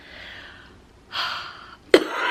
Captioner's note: sighs; coughing